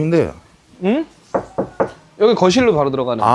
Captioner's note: knock knock knock